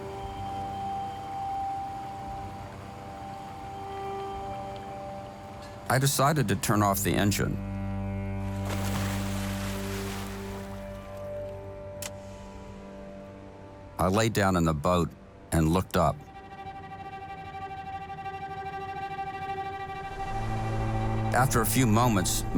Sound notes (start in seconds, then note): 0.2 pensive music; 8.5 anchor splashes; 12.0 switch clicks; 17.4 pensive music